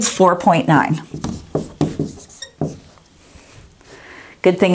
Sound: sound of writing

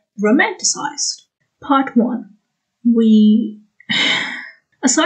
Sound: sigh

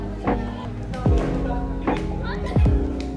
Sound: slap; more slap; more slaps

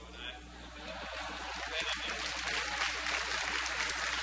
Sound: crowd laughter

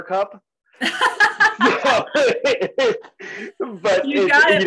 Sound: laugh

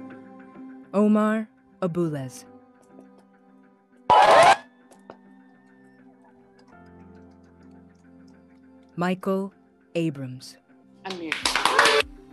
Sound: reading names, cheering and applause

